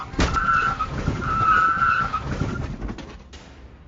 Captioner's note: tires screeching